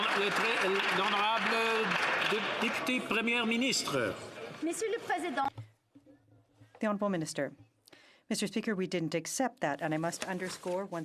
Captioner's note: some Applause